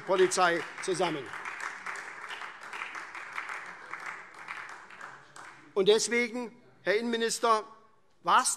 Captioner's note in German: Beifall SPD und vereinzelt Freie Demokraten